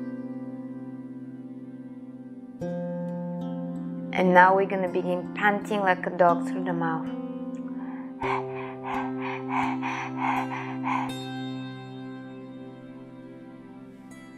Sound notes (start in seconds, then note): 7.9 panting; 8.3 tranquil music